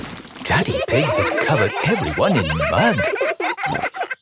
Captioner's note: all laughing